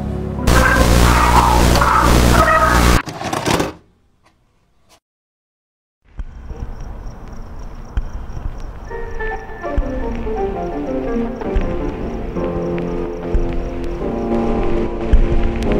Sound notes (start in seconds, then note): 0.4 distorted screaming and static; 3.0 Sound of VHS ejecting